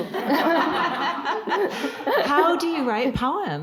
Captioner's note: audience laughing